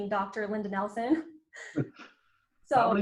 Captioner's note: laughs